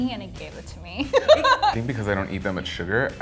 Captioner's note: laughing